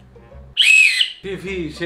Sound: whistles

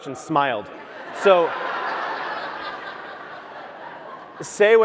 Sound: audience laughs

